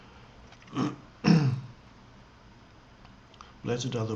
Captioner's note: Eckhart clears his throat